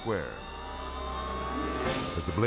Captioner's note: siren wailing